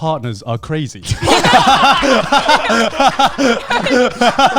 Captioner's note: all laughing